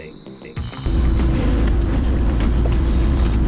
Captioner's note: engine revving